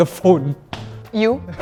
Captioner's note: stomp